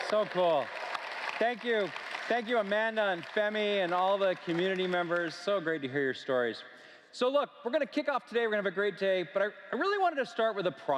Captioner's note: applause